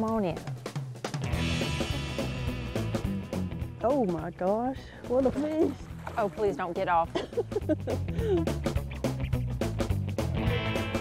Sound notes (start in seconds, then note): 3.8 laughs